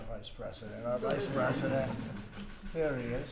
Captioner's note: laughter